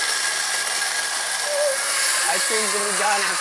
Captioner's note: ice cream machine whirring